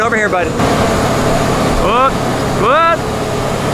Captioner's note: engine whirring